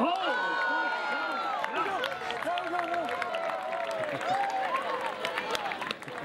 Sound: crowd cheering

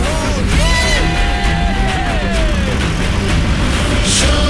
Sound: crowd cheering

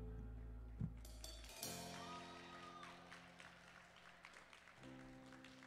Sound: audience cheering

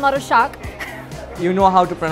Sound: laughing

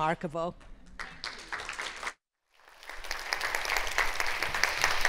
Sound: audience clapping

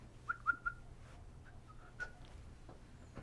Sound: whistling

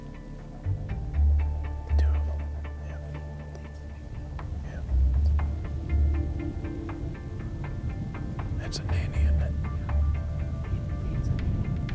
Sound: whispering

